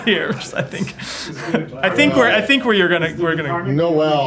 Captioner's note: laughter